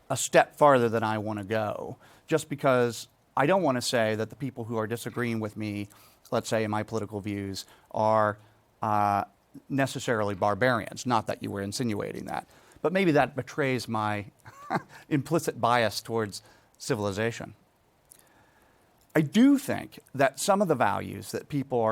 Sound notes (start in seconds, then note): 14.4 laughs